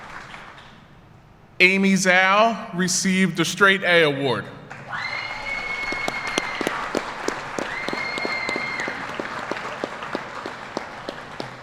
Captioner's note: applause